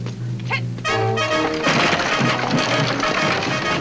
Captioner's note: wagon rattles; woman shouts; exciting music